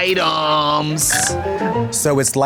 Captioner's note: bright chime